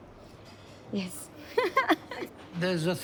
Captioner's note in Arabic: تضحك